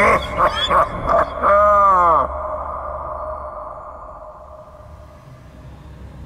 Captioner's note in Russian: Зловещий смех